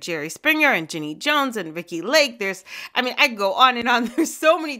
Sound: laughter

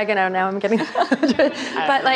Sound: laughing

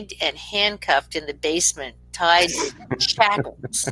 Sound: speaking faintly

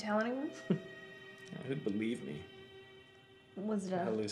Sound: chuckles

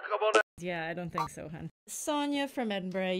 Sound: connection sounds

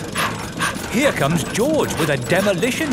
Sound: daddy pig panting

